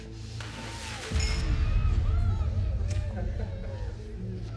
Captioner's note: victims groaning; dramatic music